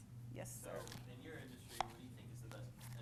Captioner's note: voiceover